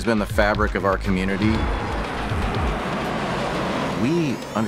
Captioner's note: jet roar